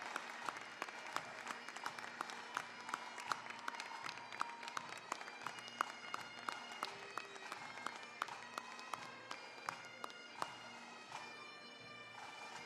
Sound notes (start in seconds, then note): 0.0 applause, cheering; 1.8 applause; 1.8 bagpipe music